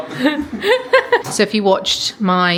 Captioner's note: laughs